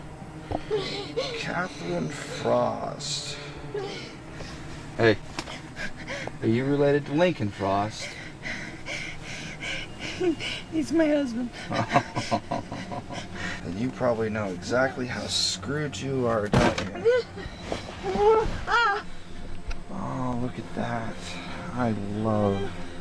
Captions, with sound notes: Mmmm. Katherine Frost. Hey... Are you related to Lincoln Frost? He's my husband (Evil Laugh) You probably know exactly how screwed you are then (Scream) Oh, look at that... I love it